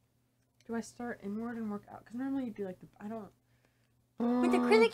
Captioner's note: annoyed huff